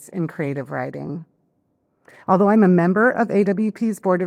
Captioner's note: none